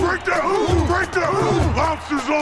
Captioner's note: team whoops